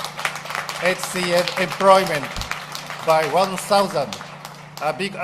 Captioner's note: applause